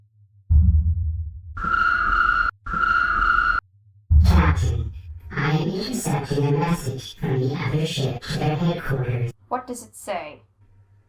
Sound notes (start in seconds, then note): 1.1 chirp! chirp!